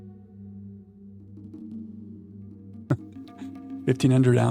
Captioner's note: laughs